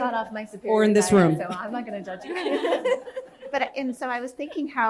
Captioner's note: laughter